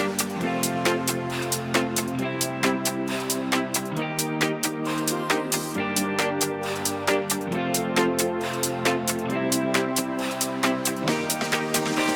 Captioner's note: deep breath